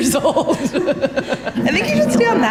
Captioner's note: interviewee laughs